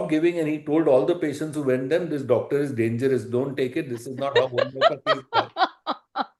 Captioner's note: laughter